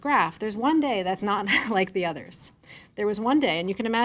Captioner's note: chuckles